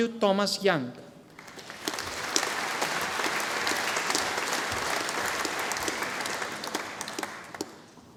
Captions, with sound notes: Andrew Thomas Young. (audience applauding)